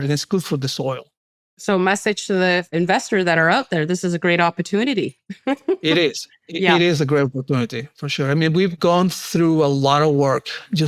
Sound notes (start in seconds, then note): 5.3 chuckles